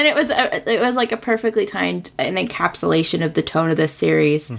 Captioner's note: laughs